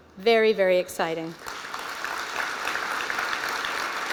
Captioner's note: applause